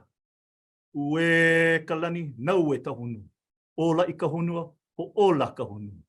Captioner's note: continues speaking in Hawaiian